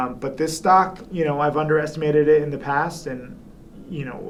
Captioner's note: none